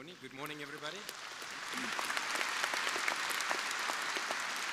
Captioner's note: crowd applauding